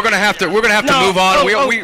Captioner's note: laughter